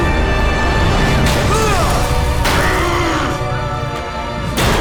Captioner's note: groaning